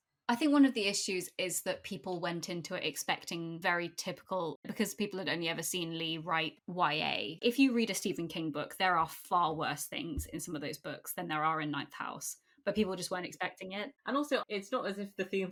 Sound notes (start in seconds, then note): none